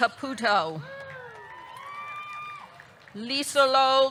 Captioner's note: audience clapping; audience cheering